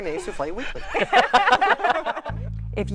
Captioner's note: laughter